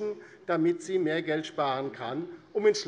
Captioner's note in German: none